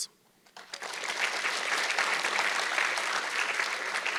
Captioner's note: audience clapping